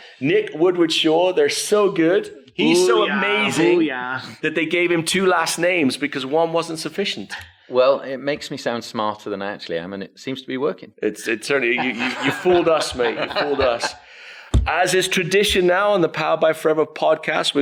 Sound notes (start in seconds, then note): 11.7 laughs